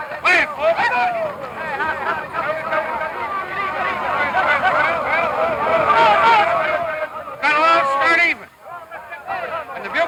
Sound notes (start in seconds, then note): 0.1 crowd yelling